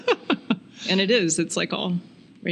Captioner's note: laughing